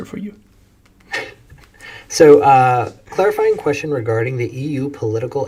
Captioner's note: laughs